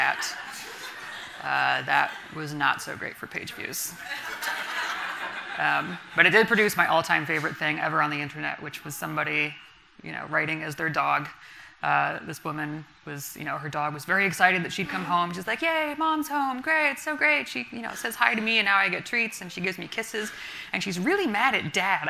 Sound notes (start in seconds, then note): 0.0 laughter from the audience; 4.0 audience laughing